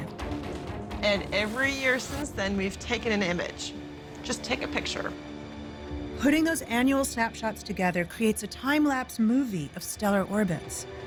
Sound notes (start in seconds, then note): none